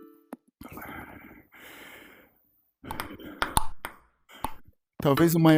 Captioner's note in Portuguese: suspirando